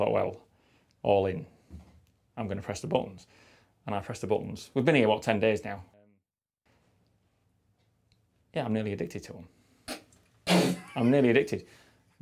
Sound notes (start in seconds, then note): 10.8 laughter